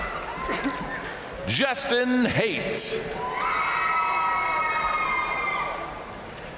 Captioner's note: crowd cheering